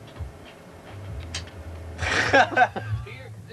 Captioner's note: laughs